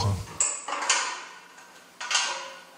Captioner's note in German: Klappern